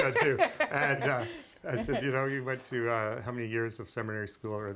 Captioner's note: laughter